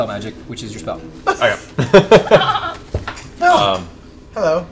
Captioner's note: laughs